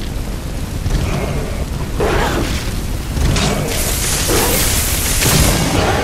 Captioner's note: gargle